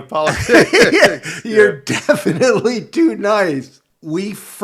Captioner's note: laughs